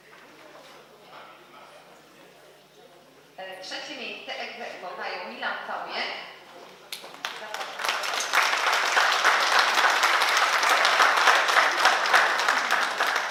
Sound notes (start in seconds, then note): 6.9 oklaski